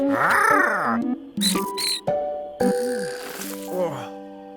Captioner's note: Twig squeals